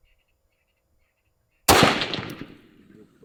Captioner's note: shot